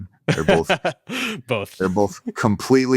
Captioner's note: laughs